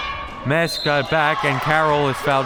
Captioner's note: whistle